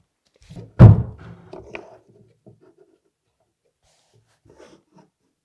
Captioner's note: cabinet thudding